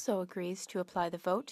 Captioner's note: speaking French